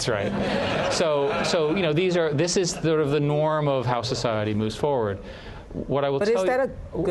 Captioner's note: laughter